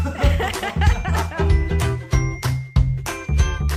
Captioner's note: laughing; bright instrumental music